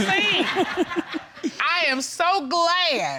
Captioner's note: chuckling